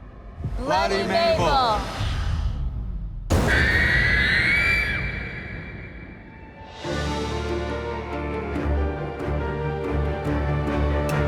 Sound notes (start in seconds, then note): 3.4 scream